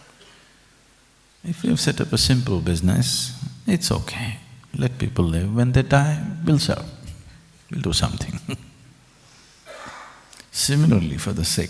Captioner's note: laughs